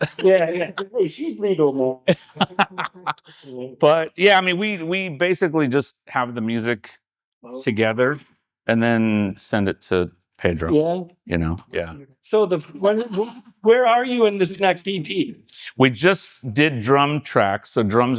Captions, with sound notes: Yeah, yeah, hey, she's legal, man. (Laughing) But, yeah, I mean, we basically just have the music together, and then send it to Pedro. Yeah? You know, yeah. So where are you in this next EP? We just did drum tracks, so drums